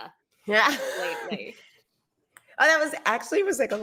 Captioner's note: laughs